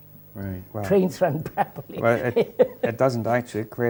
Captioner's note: laughs